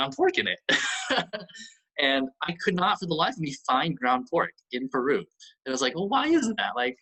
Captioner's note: laughs